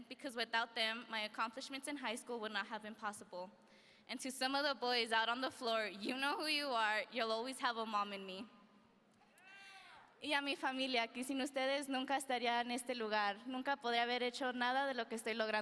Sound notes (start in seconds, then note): 10.4 speaking in foreign language